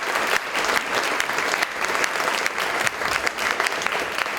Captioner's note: audience applause